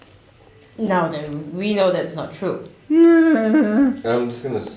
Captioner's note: cowering noises